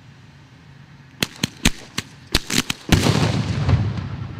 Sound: small pops followed by explosive boom

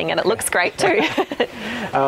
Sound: laughter

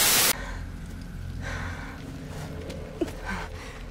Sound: heavy breathing

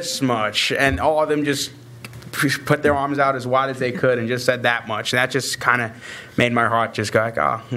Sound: none

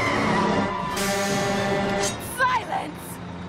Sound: truck honking

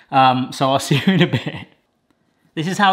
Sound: laughs

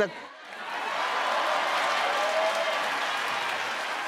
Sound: crowd cheers

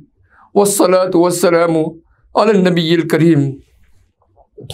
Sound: arabic

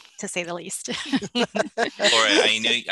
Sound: laughter

